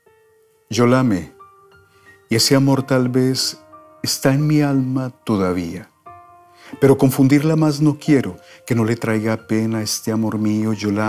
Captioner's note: reads in Spanish